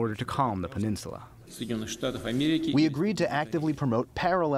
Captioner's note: through translator